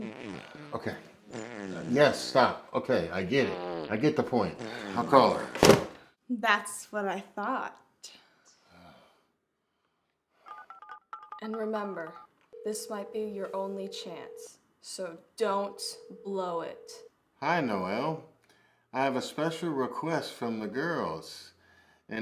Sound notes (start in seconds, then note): 0.0 Arizona farts; 10.7 phone dials